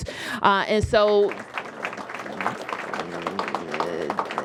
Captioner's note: applause